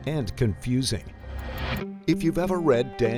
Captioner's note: transition swooshing